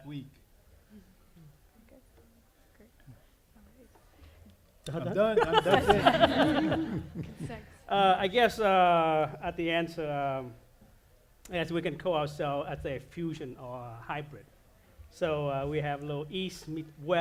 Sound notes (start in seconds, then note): 4.9 laughter